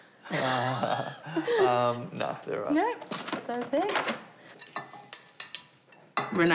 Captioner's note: both chuckle